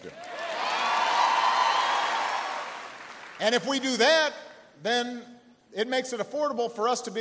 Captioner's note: cheering and applause